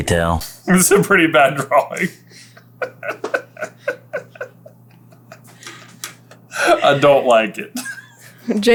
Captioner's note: giggles